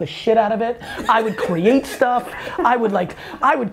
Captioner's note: Cha chuckles